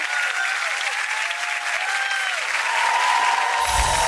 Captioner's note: cheers; clapping; twinkling